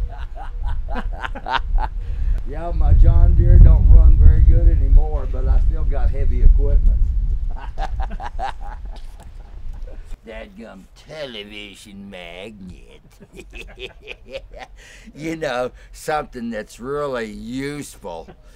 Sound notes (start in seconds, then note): 0.0 crazy laughing; 7.5 crazy laughing; 12.3 creepy giggling